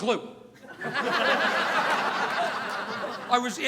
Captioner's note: audience laughing